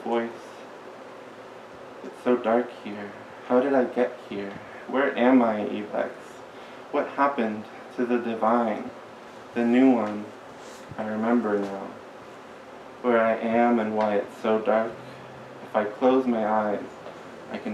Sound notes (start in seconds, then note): none